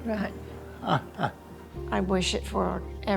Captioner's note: laughs